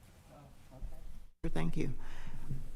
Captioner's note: quietly